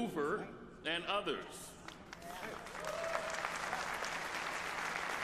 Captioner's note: applause